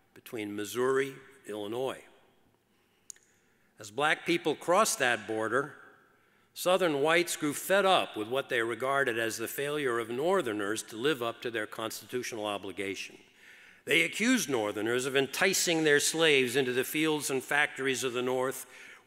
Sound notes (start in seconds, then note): none